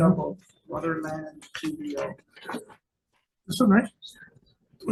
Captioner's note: faintly speaking